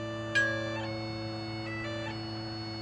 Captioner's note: bell dinging